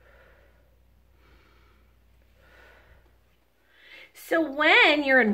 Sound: inhales then exhales

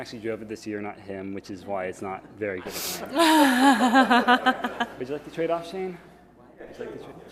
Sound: haha

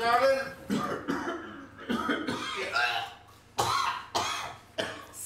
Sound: coughs

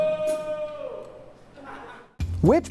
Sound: laughter

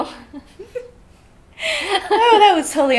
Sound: laughs

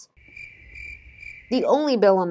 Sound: crickets

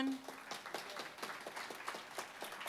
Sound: applause

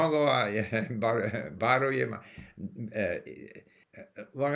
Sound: Arabic

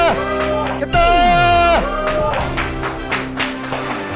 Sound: automatic applause

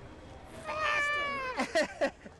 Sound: scream; laughter

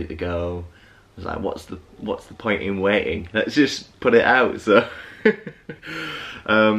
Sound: laughing

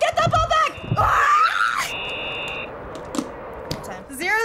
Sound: whistle screeches; screams

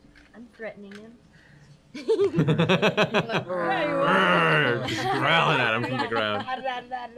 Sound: laughs

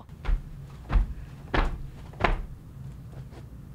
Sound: jumps thud

